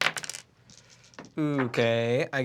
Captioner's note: rolls dice